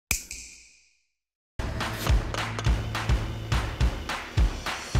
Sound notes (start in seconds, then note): 0.1 snap